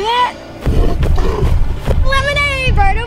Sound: animal grunting and roaring

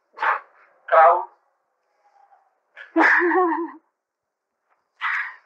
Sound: laughter

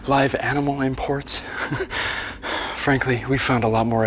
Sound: chuckles

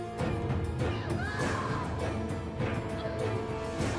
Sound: Çığlık sesleri

